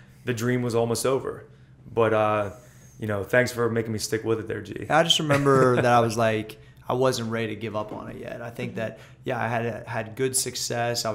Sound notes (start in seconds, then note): 5.2 laughter